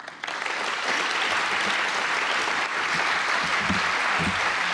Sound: audience applauding

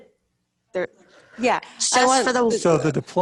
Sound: voice distorted

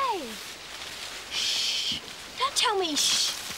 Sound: shushing

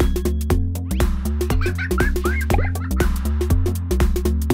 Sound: laughter

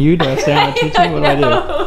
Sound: laughing

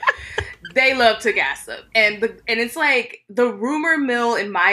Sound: laughing

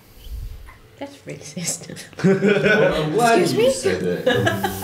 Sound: laughter

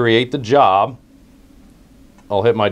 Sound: pause

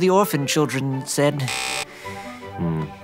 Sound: buzz

